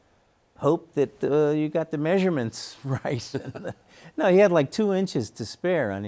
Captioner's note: chuckles